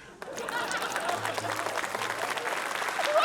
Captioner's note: laughter, applause